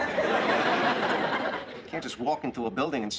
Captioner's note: laughter